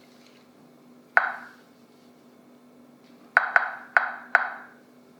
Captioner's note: gadget clicking